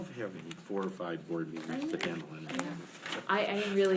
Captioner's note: speaking faintly